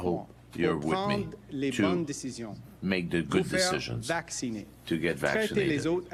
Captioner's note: speaking French